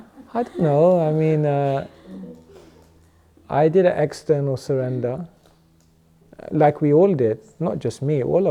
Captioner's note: chuckles